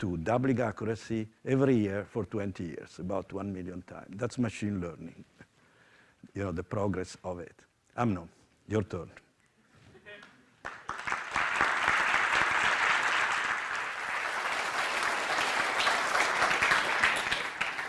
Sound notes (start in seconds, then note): 10.6 applause